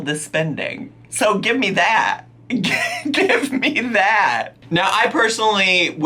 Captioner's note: laughing